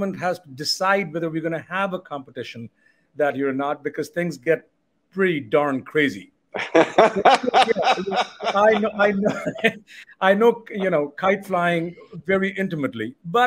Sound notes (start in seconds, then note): 6.5 laughing